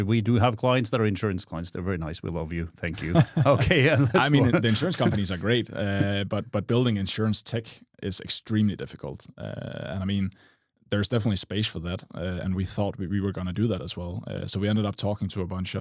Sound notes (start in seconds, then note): 2.9 friendly laughter